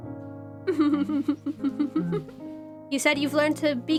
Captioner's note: ROSE giggles